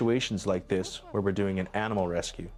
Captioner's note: voiceover